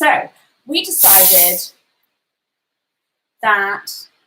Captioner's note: soda bottle hisses